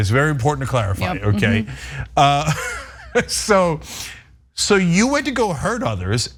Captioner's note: laugh